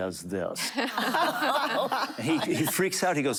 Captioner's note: laughter